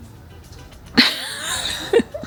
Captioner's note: laughing